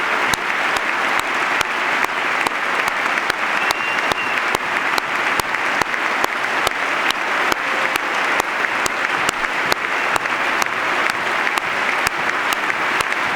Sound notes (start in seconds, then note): 1.9 applause